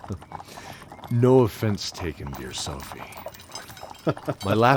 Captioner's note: chuckle; laugh